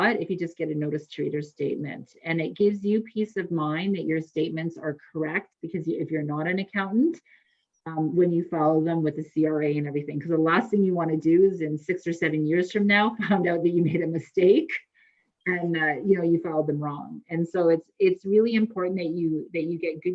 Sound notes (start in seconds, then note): 13.4 laughs